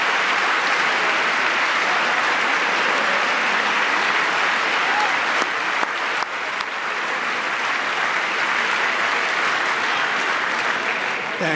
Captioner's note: applause